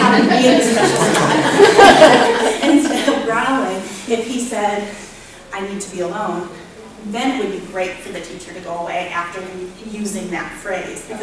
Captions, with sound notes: you just have mean expressions-- (audience laughter) instead of growling, if he said, 'I need to be alone', then it would be right for the teacher to go away after using that phrase.